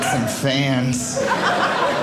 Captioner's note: audience laughing